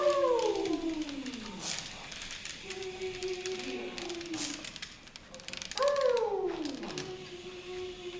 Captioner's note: howls; howls and shushing